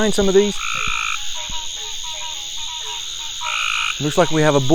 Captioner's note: frogs croaking